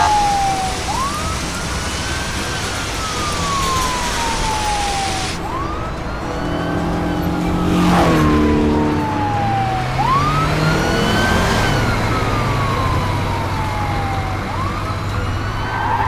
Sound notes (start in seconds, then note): 2.0 police car’s sounds; 2.0 race car’s sound’s